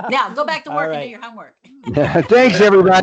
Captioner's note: laughs